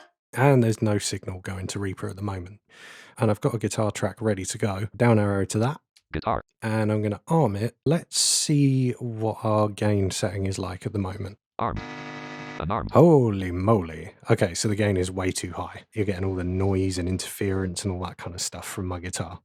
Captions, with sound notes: and there’s no signal going to Reaper at the moment. And I’ve got a guitar track ready to go. Down arrow to that. [Automated voice] Guitar …and then I’m going to arm it. Let’s see what our gain setting is like at the moment. [Automated voice] Arm! Holy moly! OK so the gain is way too high. You're getting all the noise and interference and all that kind of stuff from my guitar.